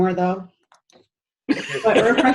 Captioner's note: laughter